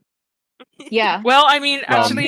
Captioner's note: giggles